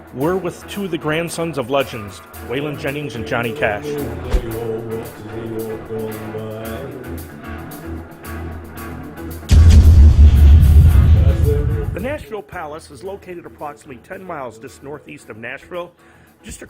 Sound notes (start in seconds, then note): 4.2 graphics whooshing; 6.3 gentle upbeat music; 9.3 graphics thudding